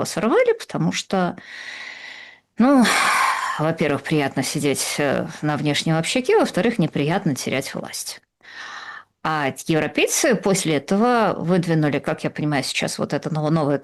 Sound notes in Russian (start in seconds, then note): 2.8 вздыхает; 2.8 тяжело вздыхает